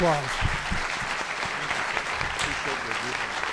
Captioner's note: clapping